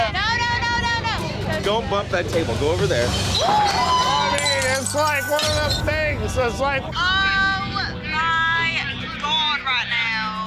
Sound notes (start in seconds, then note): 3.7 clatter